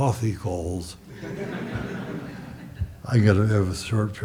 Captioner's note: audience chuckles